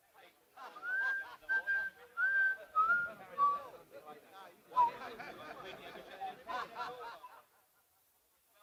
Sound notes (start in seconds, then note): 0.6 men laughing; 0.6 whistling